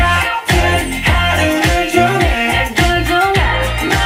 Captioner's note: cheers